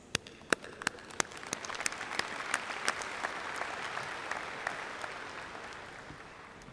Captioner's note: applause